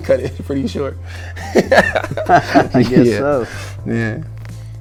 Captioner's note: laughing